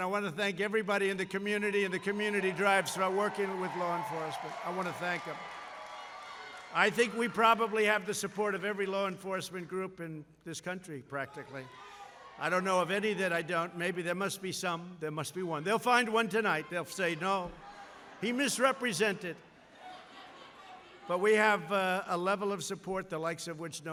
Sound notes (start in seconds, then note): 5.7 applause